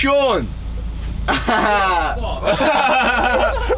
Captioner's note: laughs; all laugh